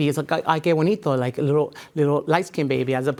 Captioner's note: speaking in a foreign language